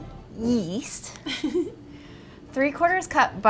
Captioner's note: laughing